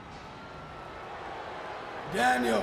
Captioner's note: crowd boos